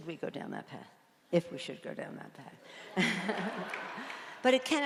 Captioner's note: laughs